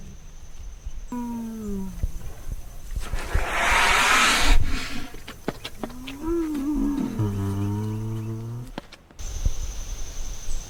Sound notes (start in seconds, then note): 2.2 bear howls; 4.5 bear snuffling; 5.8 bear grunting